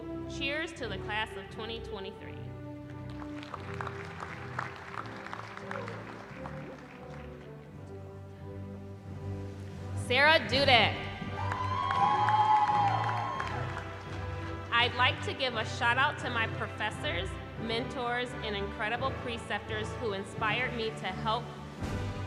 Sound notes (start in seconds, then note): 3.0 applause; 11.3 cheering